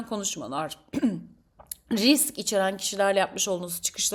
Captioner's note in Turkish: boğazını temizler